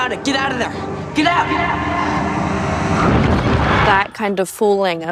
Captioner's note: voice echos